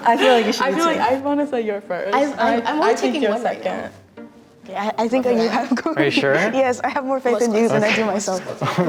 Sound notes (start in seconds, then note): 6.0 laughing